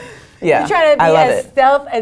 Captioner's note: laugh